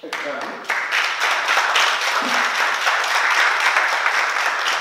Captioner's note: oklaski